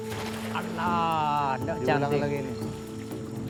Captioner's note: indistinct chatter